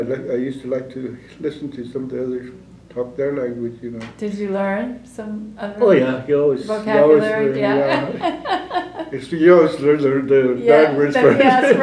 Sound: laughter

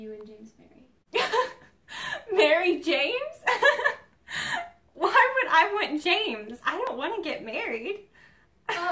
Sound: laughs

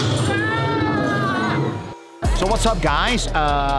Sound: screams

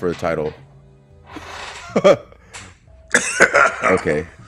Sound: laugh

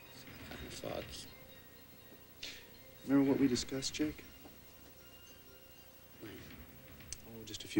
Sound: mumbles

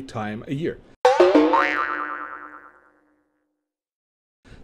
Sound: cartoon boing

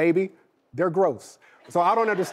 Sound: audience laughing

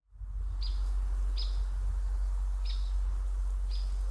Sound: birds chirping

